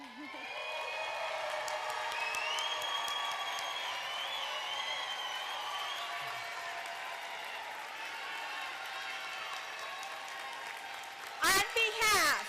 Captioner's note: applause